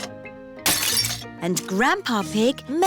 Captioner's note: shattering